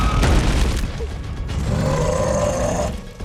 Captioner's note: growls